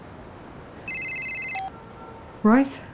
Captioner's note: ringing